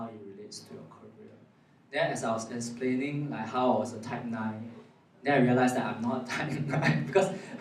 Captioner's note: laughs